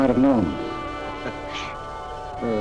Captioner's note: laughing